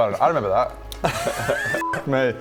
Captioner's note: unconvinced giggles